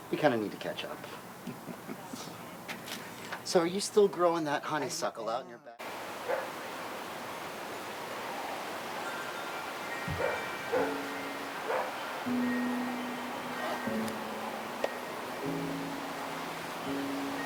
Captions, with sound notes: we kind of need to catch up. So, are you still growing that honeysuckle out in your back yard? (wind whooshing) (piano music) (bell chimes)